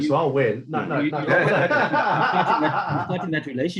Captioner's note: laughing